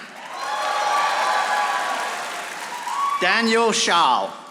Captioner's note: audience applauding